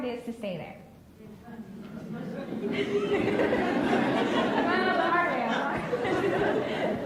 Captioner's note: laughs